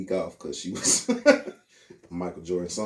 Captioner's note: laughing